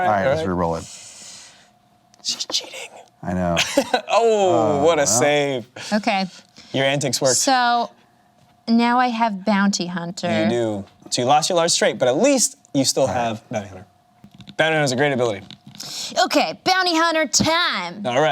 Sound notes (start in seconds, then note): 4.4 laughs